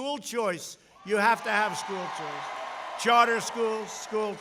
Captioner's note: applause